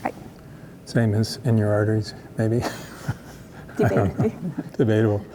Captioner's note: laughs